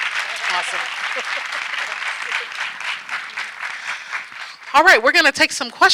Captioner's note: audience clapping